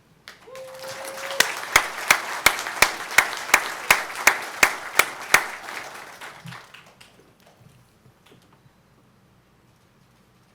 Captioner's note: applause